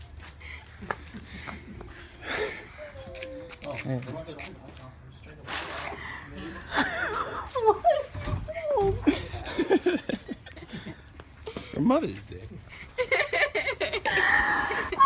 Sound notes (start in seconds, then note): 6.4 laughing